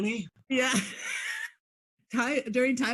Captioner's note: laughs